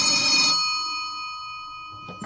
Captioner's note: phone ringing